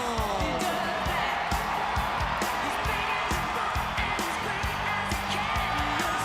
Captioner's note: crowd cheering